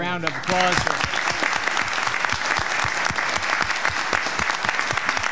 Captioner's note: audience clapping